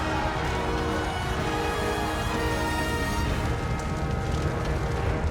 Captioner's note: crowd cheers